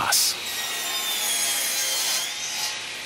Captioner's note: sounds of sawing